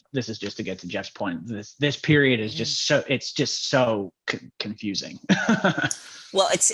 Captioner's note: laughs